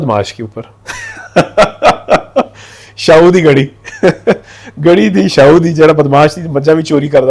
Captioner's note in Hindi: हंसी